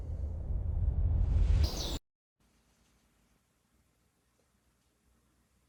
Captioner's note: birds chirping